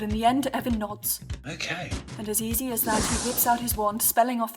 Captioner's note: whoosh